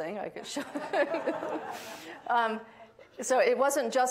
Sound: audience laughing; laughing

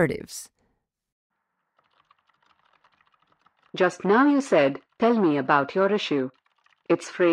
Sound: background SFX: Keyboard typing

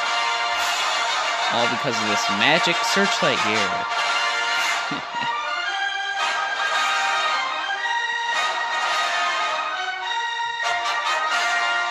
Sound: sofly chuckles

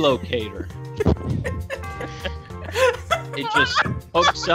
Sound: laughter

